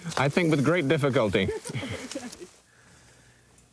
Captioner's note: laughter